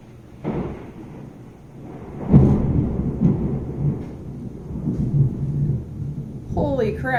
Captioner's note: thunder